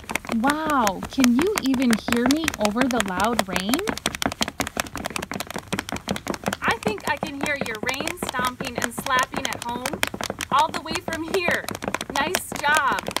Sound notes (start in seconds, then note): 0.0 loud stomping and slapping sounds; 3.9 loud stomping and slapping sounds